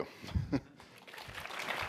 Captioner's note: laughs; applause